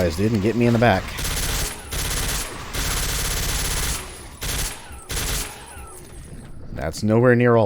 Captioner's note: Ingram spraying